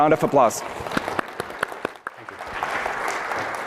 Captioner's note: applause